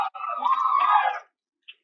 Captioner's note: cheering